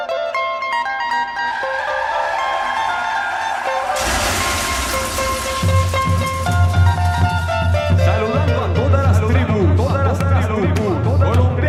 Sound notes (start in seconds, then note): 1.3 tires screeching; 3.8 crash sound; 5.8 percussion music; 7.8 non-english singing